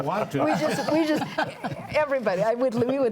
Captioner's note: panelists laughing